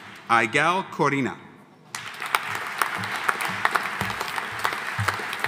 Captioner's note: audience applauding